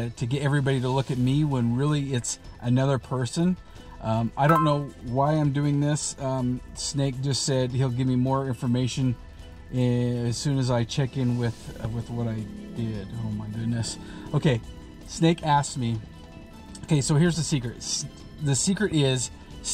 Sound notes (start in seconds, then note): 4.4 phone jingles